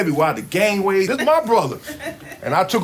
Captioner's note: students laugh